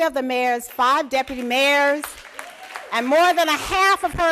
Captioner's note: applause